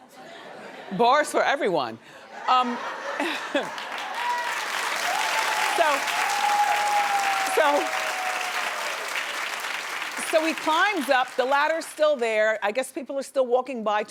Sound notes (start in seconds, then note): 0.0 audience laughs; 2.4 audience laughs; 4.3 audience claps